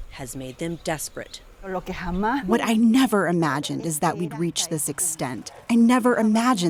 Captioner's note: through translator